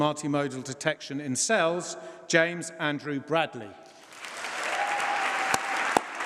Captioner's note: applause